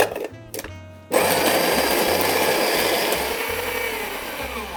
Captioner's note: grinder whirring